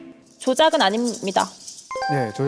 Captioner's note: awkward sound effect